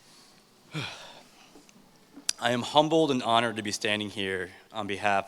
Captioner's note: sighs